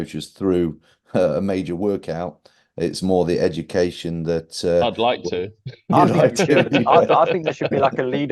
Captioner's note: laughing